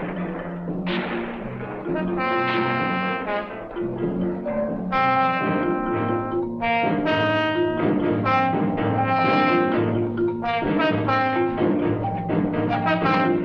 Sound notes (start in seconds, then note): 0.0 gunfire continues; 9.1 suspenseful instrumental music